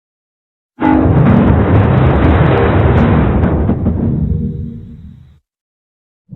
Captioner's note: Supernatural 3D Giga Windows XP Startup Sound